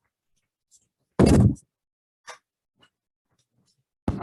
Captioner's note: desk slamming